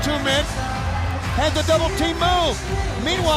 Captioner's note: crowd cheering